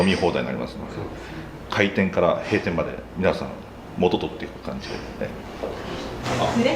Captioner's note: laughs